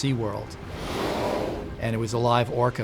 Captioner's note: whale breaching sound